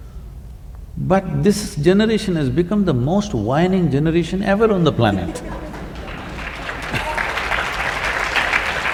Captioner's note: laughter/ Applause